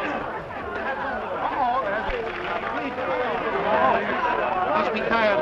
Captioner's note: chattering